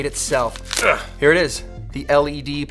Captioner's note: grunting